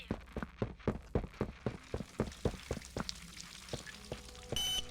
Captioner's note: footsteps